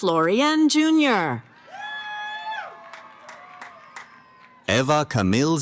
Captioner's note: cheering